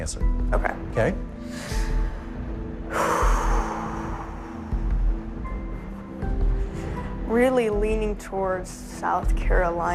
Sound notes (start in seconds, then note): 2.8 sighs